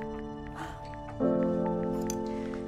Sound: sighs

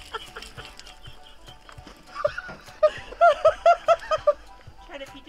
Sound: laughing

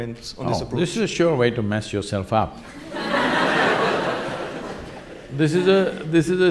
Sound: laughter

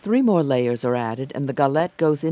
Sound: voiceover

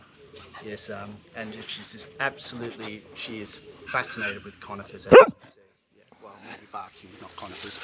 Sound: woof

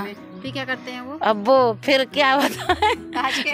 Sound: laughs

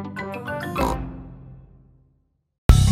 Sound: oink

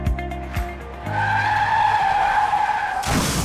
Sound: screeching tires

